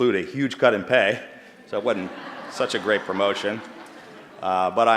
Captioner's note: laughter